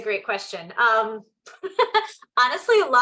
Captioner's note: chuckles